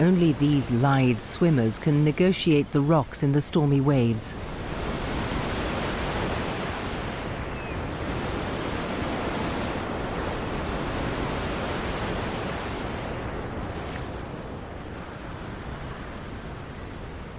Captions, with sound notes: Only these lithe swimmers can negotiate the rocks in the stormy waves. (waves crashing)